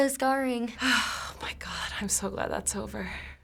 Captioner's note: sighing